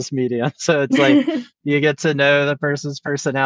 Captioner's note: laughs